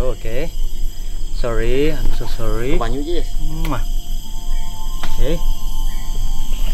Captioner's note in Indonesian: kiss